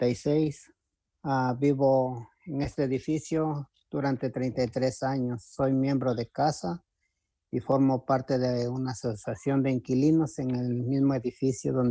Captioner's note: speaking spanish